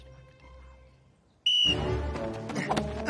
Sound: whistling

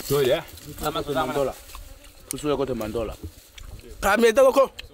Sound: speaking foreign language

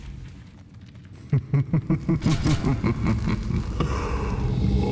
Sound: chuckles

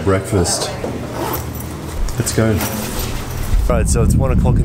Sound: pack zipping

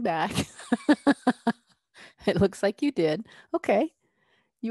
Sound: laughter

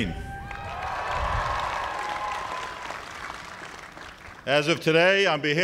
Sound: cheers and applause

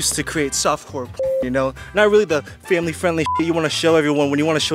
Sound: beep

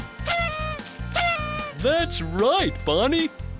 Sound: sound of a party horn

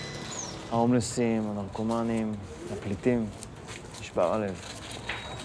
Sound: speaks in foreign language

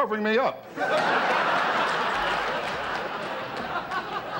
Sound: audience laughter

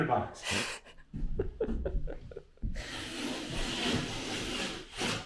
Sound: laughing

